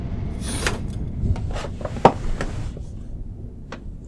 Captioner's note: curtain closing; chair creaks